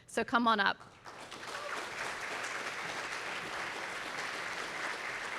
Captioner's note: audience applauding